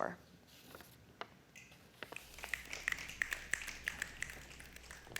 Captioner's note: snapping